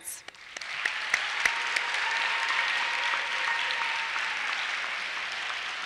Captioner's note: applause